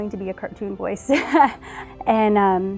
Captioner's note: laughter